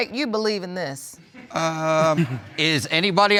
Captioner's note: audience chuckling